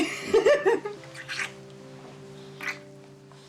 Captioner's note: Lynn laughs